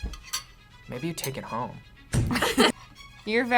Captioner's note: both laugh